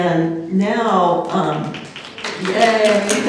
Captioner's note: applause